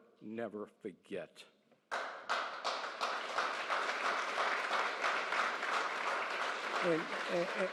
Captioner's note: applause